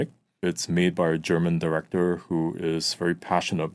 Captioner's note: none